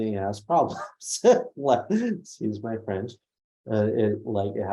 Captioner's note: laughs